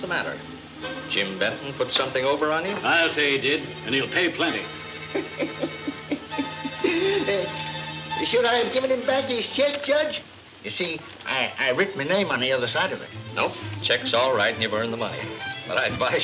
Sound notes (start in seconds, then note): 4.4 Cactus laughing